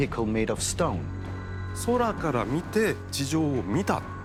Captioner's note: speaking Japanese